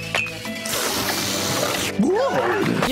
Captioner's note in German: Schmatzgeräusche